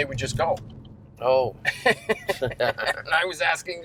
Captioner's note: laughs